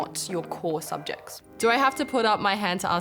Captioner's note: ping